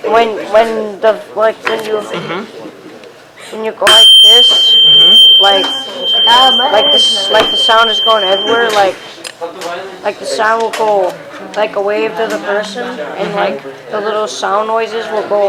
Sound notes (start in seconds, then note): 3.8 tuning fork hits